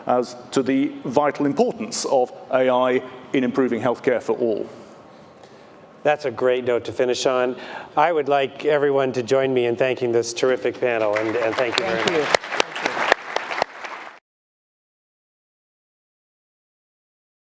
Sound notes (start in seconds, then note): 13.0 audience applauding